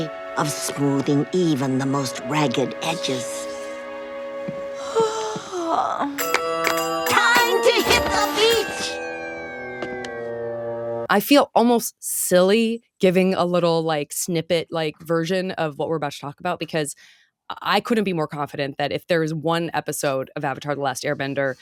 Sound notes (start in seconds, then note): 4.8 yawning